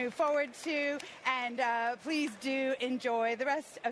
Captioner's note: applause